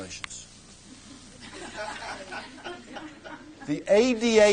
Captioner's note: laughter